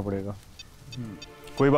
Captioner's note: Beeps on mobile